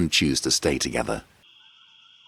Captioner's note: wildlife chirping